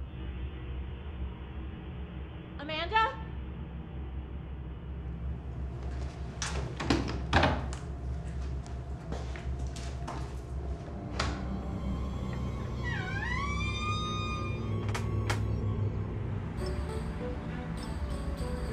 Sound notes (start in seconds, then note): 11.0 door creaks; 11.8 ominous music; 16.6 upbeat music